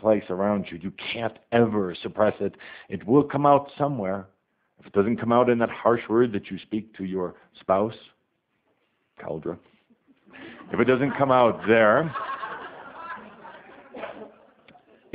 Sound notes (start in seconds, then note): 10.3 audience laughter